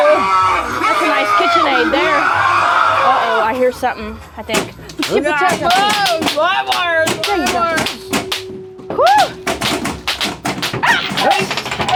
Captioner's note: laughing